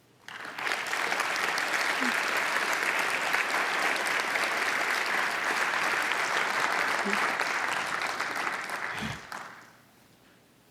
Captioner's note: applause